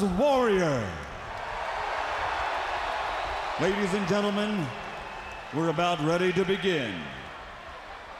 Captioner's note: crowd cheering